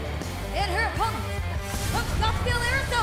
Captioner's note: crowd cheering